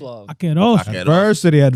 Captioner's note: speaking In Foreign Language